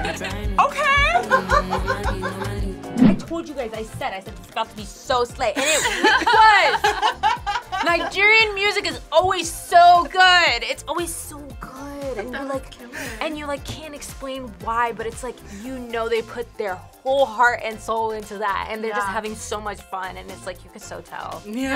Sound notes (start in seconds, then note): 0.8 React laughs; 5.6 group laughs